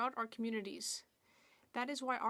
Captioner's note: speaking French